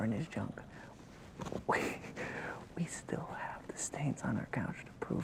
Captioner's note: laughs